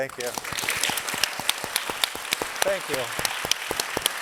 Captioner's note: audience applauding